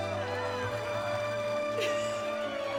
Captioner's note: laughing